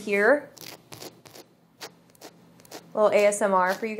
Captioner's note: scratching crust